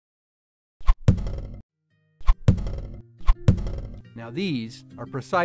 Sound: sound of arrows landing

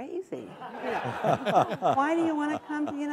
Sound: audience laughing

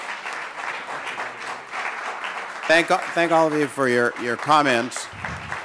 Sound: applause

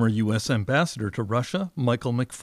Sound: speaking Foreign Language

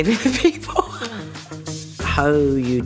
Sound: laughs

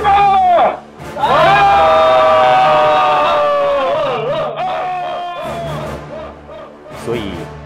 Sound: cheer

